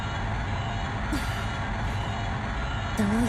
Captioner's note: relieved sigh